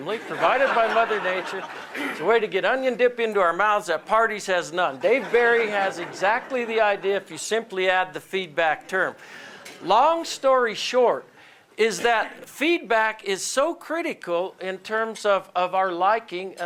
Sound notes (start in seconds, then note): 5.0 laughter